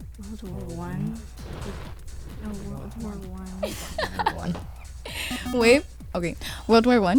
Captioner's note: wispering